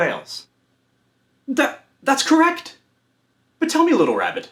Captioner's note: stammers